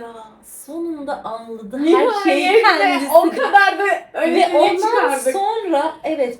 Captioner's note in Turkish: kahkaha